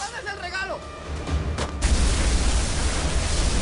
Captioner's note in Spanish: Gritan al unísono; Explosión; Disparo